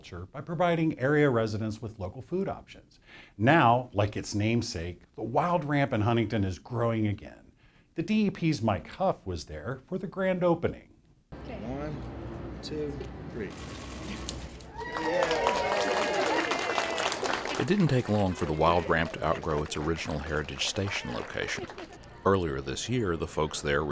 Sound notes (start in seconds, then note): 14.6 cheers